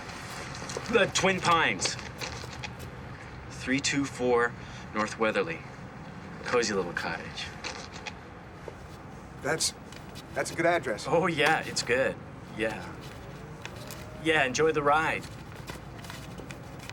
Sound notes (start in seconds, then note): none